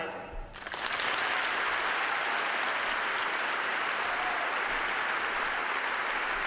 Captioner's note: applause